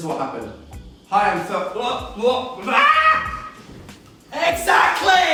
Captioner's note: exclaims